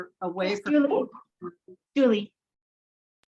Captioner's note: murmurs